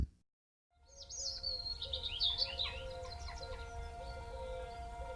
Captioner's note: chirping birds